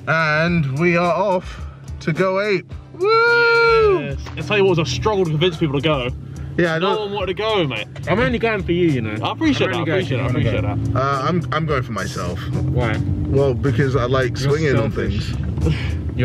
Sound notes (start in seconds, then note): none